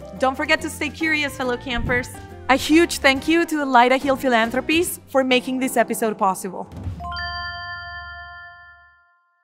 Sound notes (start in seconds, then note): 7.0 chiming